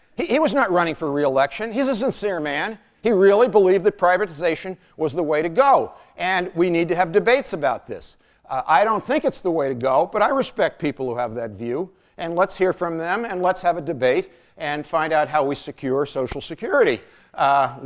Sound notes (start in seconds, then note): none